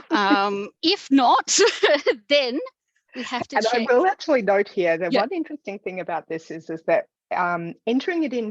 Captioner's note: laughs